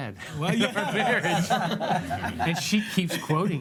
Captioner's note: laughs